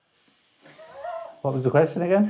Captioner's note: laughing